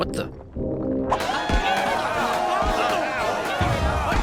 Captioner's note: noisy crowd